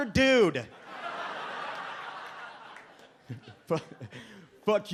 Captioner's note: audience laughs